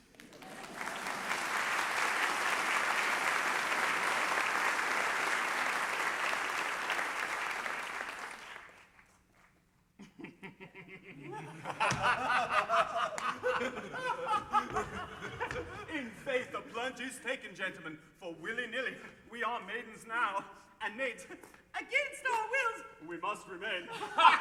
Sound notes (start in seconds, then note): 0.0 applause; 10.0 men laugh